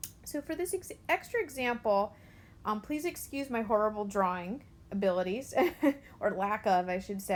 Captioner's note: chuckles